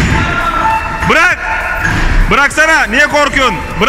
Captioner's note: some arguing